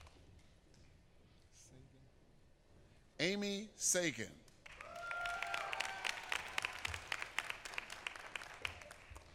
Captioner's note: applause